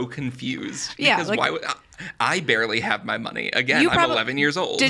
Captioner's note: stammers